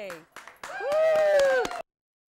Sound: applause

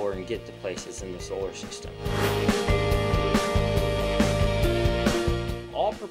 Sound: sound Effects

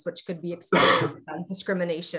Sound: coughing

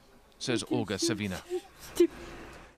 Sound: speaking alternate language

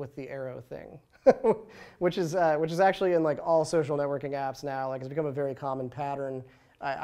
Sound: laughs

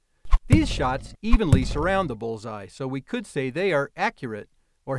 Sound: sound of arrows landing

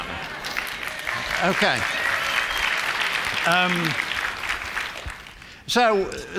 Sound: applause

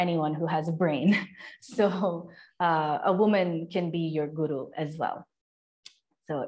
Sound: laughter

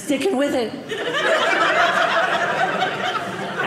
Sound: audience laughing

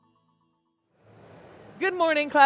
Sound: crowd chattering

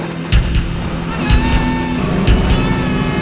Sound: yelling

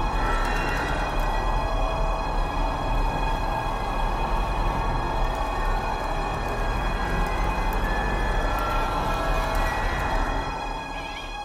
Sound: remote control car driving noises; scary creature rapid crawling; creepy carnival music; remote control car driving noises; creepy crawling noises

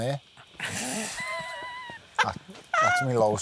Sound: laughs

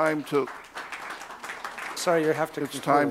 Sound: applause

